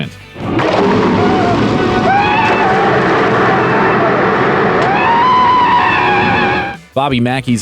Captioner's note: screaming